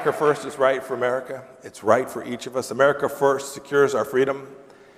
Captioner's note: applause